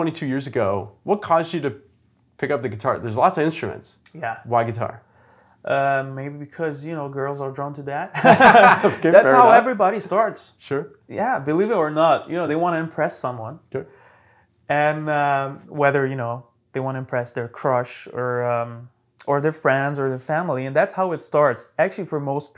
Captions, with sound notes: and whether they wanna impress their crush or their friends or their family, and that's how it starts, actually, for most people, even if they don't say it. (laughs) And later on, of course, it might develop into something more passionate and more deeply rooted. Some people, for them, music is a way to express themselves,